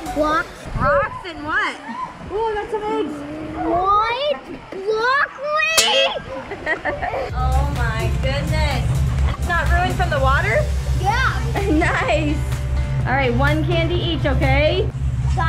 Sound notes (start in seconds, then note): 5.9 laughing